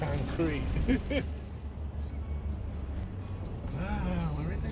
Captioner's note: chuckling